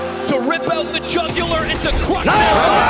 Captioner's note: gun firing; crowd cheering